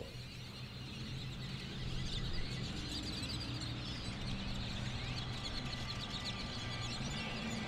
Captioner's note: birds